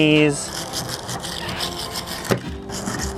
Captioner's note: scrubbing